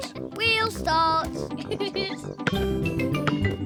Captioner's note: laughs